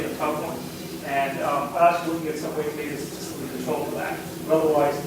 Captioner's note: speaking faintly